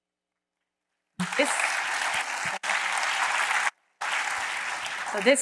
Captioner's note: applause